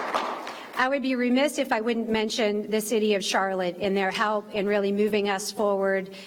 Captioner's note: applause